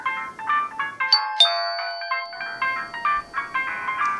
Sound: doorbell chimes

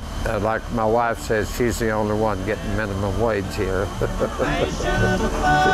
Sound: laughs

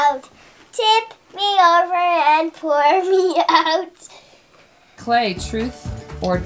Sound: laughing

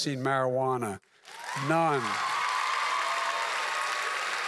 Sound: applause

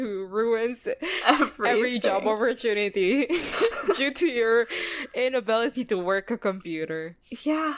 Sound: laughs

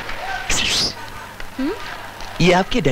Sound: whistling

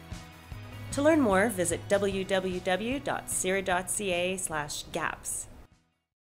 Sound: voiceover

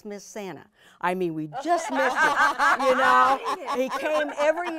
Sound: all laughing

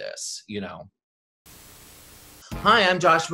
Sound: static hisses

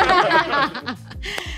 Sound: laughter

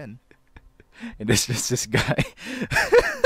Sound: unrequited laughter ensues

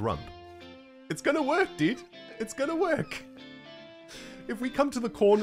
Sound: squeak-laughing

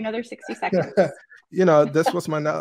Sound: laughs

